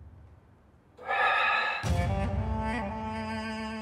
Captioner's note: Exhales sharply